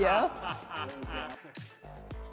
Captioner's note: director laughs